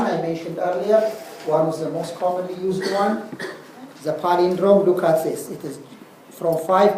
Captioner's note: cough